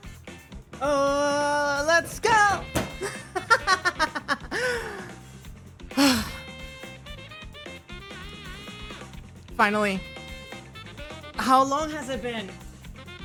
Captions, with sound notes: Ohhhhh let's go!!!! [ SLAMMING CHAIR ARM REST ] [ LAUGHTER ] [ SIGH ] Finally! How long has it been?